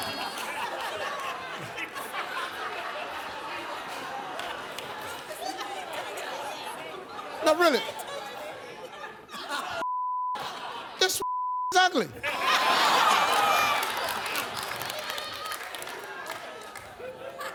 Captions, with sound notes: (continued laughter) Nah, really, (beep), this (beep) ugly. (laughter)